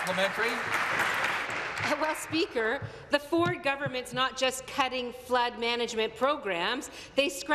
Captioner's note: applause